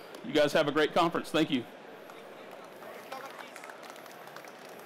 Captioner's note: applause